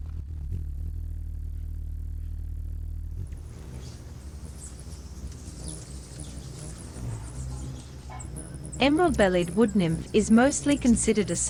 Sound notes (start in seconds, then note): 0.1 bird's wing flapping; 3.3 birds chirping; 3.4 bird's wing flapping